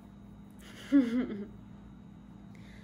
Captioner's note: laughs